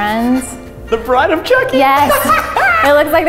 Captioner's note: laughs